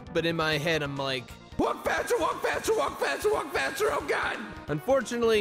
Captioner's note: echos